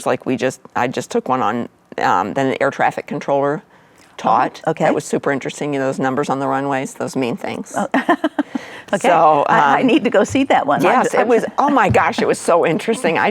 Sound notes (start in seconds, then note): 7.8 laughs